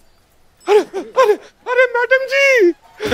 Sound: panting

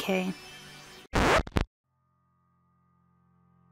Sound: record Scratch

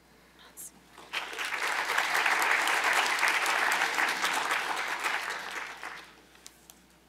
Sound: applause

